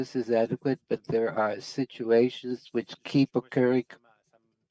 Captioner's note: speaking French